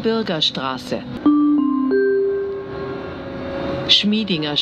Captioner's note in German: Gong